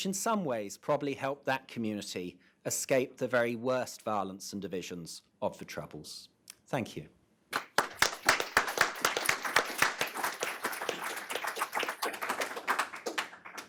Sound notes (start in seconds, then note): 7.5 everyone applauds